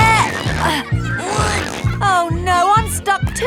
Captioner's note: grunting